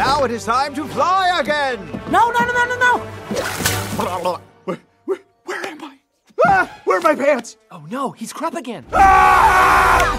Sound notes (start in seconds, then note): 3.3 splash; 10.0 snap